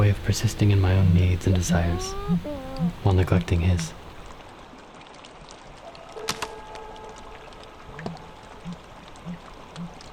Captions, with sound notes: A way of persisting in my own needs and desires while neglecting his. [water trickling] [light music]